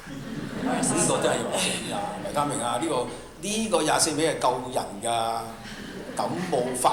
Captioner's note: laughter; Cantonese